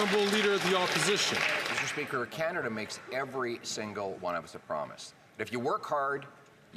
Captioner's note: some Applause